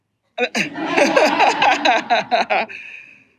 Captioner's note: laughter